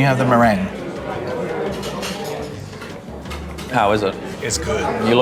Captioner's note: patrons chattering